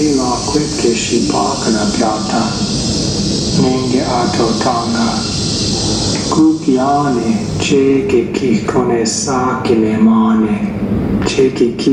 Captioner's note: male voice speaking in Indigenous Myaamia language